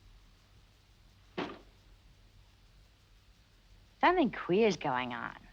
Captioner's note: windows banging